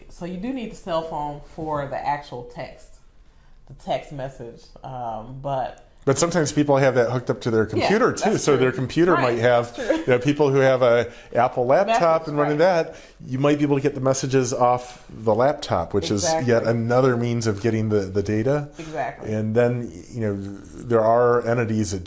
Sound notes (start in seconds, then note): 9.1 laughs